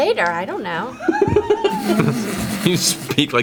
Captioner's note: laughs